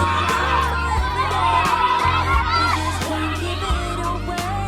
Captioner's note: applause